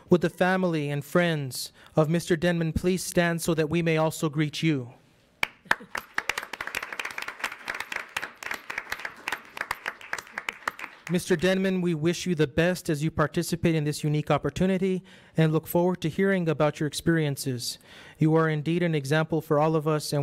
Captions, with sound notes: Would the family and friends of Mr. Denman please stand, so that we may also greet you? (audience applauds) Mr. Denman, we wish you the best as you participate in this unique opportunity, and look forward to hearing about your experiences. You are indeed an example for all of us,